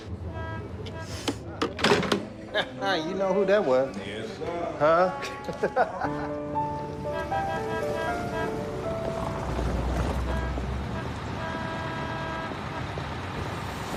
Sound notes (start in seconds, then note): 2.3 chuckles; 5.2 laughs; 6.6 horn honking